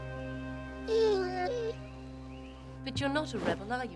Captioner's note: Patch whining